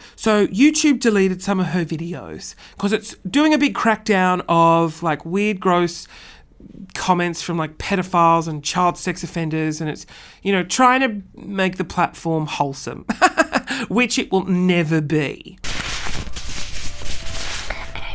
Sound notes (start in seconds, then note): 13.2 laughs